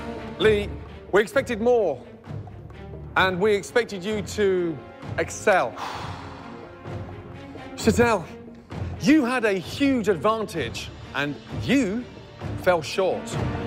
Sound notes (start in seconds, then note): 5.7 exhales deeply